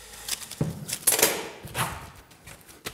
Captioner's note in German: Scheppern